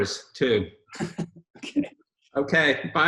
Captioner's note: Robert chuckles